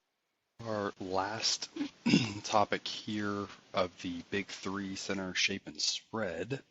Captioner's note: cough